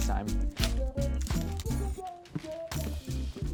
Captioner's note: money flying; gentle upbeat hip-hop music